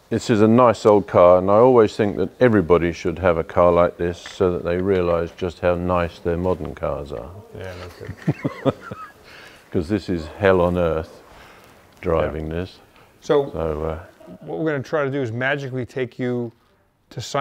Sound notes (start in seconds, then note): 7.3 laughs